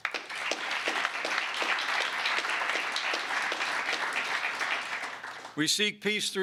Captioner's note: applause